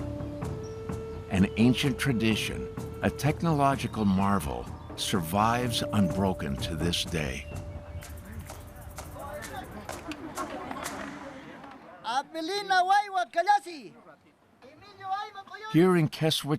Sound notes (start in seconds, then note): 8.0 people talking softly; 11.0 calling in Quechua